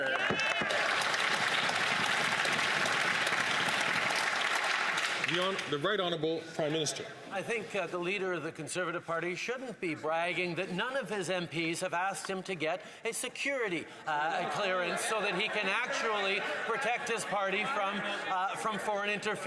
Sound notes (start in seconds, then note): 3.1 some Applause